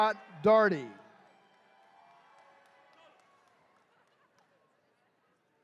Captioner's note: attendees cheering